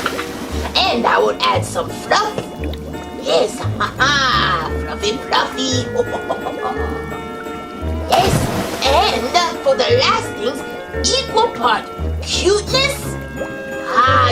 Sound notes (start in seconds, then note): 0.2 splashing; 8.0 splashing